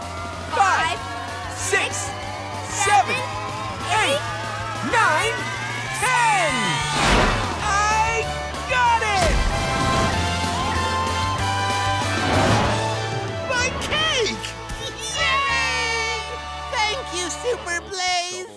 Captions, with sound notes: five, six, seven, eight, nine, ten! I got it! My cake! [cheering] Thank you Super Blaze!